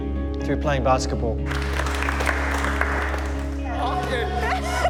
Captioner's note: applause